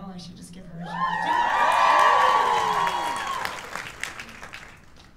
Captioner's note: cheers